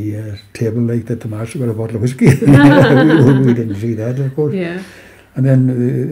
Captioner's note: both laugh